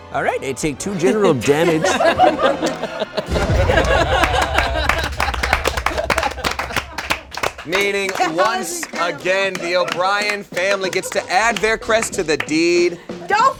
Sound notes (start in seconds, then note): 2.0 all clapping; 2.4 all laughing